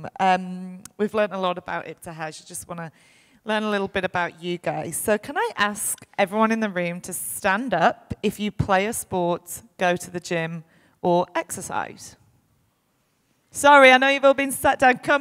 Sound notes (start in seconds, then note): none